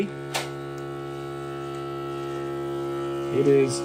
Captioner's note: sealer buzzing softly